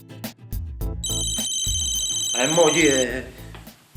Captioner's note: cell phone rings